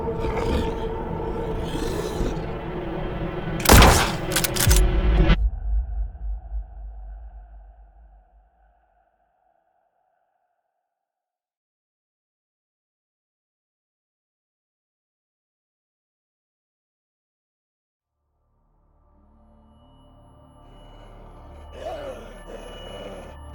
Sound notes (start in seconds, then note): 0.0 wolf growling; 3.6 gun fires and clacks; 18.3 high-pitch ringing; 18.9 tense music; 21.4 wolf growling